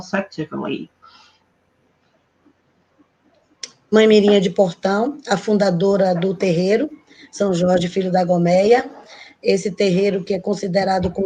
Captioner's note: speaking Portuguese